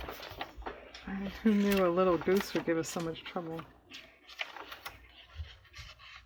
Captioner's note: laughs